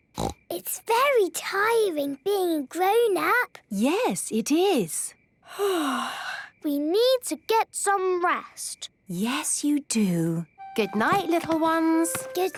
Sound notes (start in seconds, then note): 5.8 yawning